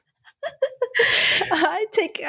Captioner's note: laughter